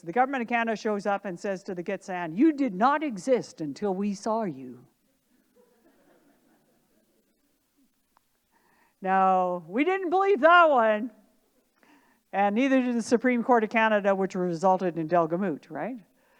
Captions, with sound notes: the Government of Canada shows up and says to the Gitxsan, "You did not exist until we saw you." (audience laughing) No, we didn't believe that one. And neither did the Supreme Court of Canada, which resulted in Delgamuukw, right?